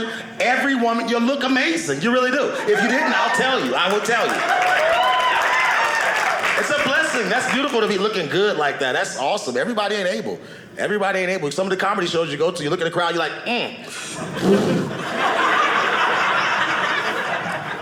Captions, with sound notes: Every woman, y'all look amazing. You really do. If you didn't-- I'll tell you. I will tell you. (audience cheering) It's a blessing. That's beautiful to be looking good like that. That's awesome. Everybody ain't able. Everybody ain't able because some of the comedy shows you go to, you look at the crowd, and you're like, (audience laughing)